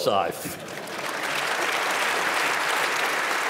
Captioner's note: applause